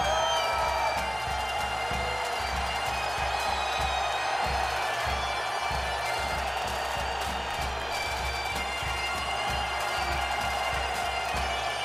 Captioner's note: crowd cheering